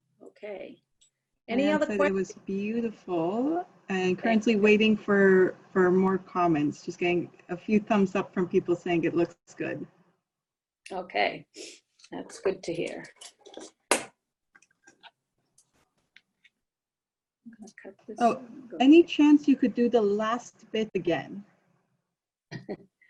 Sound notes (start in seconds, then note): 14.3 silence